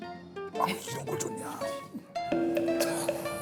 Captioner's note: struggling